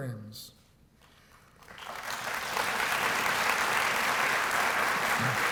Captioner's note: applause